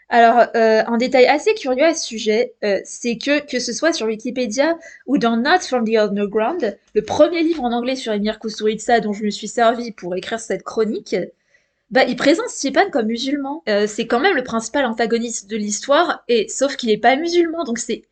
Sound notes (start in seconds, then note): 3.9 french